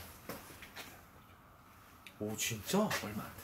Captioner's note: whispering